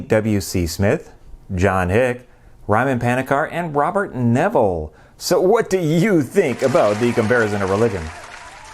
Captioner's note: applause